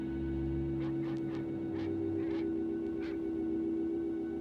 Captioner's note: dogs barking